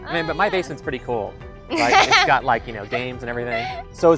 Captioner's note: laugh